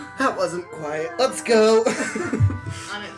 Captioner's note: laughing; coughing